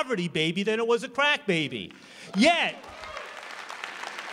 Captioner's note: applause